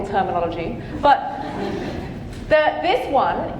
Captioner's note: audience laughing